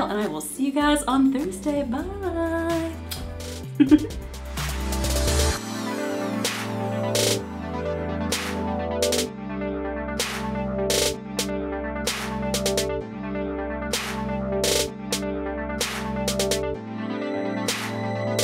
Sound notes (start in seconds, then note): 3.7 giggles; 4.5 upbeat electronic music